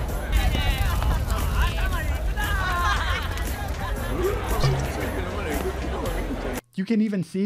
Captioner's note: crowds talking in the background; drunken crowd; cork bottle opened